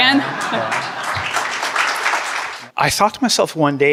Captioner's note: clapping